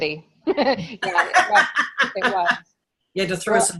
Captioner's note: everyone laughs